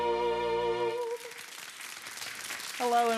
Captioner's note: audience clapping